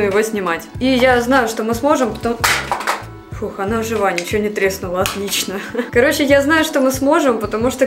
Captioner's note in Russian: звук падения